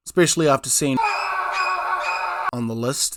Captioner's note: frightened Kiwi noises